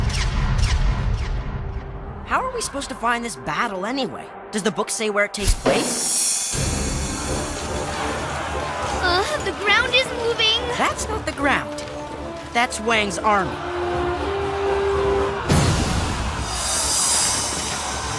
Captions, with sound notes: How are we supposed to find this battle anyway? Does the Book say where it takes place? ( distant shouting ) Uh, the ground is moving! That's not the ground. That's Wang's army.